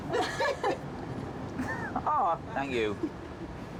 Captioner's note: staff laughing